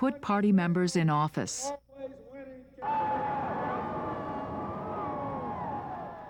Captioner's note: cheering